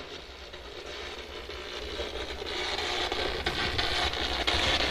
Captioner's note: static buzzing